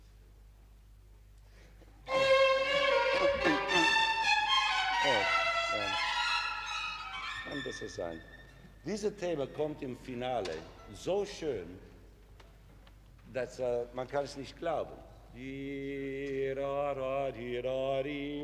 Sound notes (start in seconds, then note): 2.0 orchestra playing; 5.9 orchestra stopping; 7.6 speaking foreign language; 15.5 singing melody